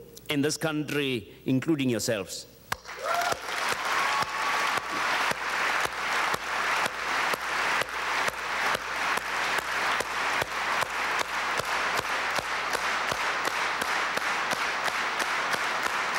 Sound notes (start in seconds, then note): 2.7 audience applauding